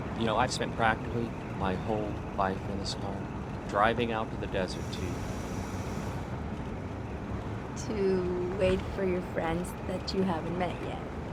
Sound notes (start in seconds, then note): none